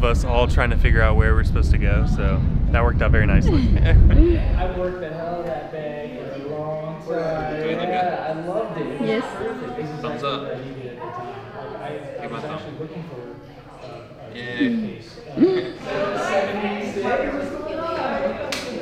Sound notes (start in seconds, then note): 3.3 chuckle; 11.1 participants chatter; 15.4 laughs; 16.2 participants continue chattering